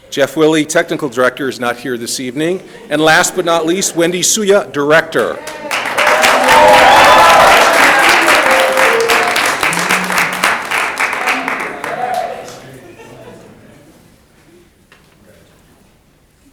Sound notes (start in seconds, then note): 5.1 audience applauding; 11.0 people murmuring